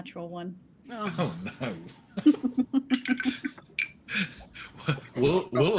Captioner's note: chuckles